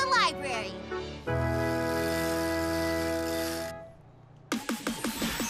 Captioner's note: wheels whirring; upbeat music